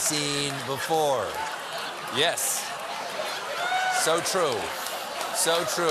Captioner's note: laughter